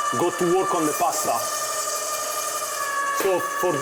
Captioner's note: pasta machine rolling